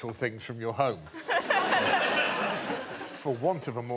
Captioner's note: laughter